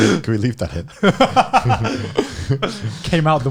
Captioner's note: laughing